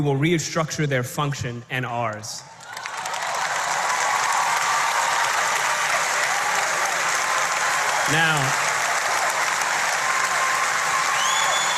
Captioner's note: applause